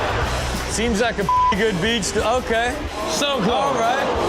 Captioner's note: beep